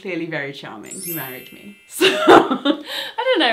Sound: she laughs

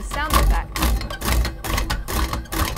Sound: sounds of machinery

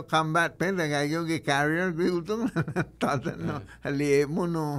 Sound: laughing

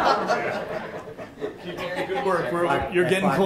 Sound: everyone laughs

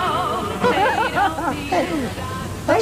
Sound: laughter

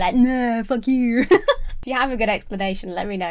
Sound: laughing

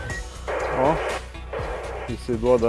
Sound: sonde on radio

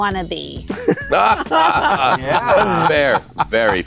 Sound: laughter

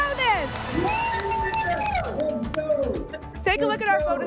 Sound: cheering

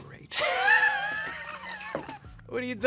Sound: laughing

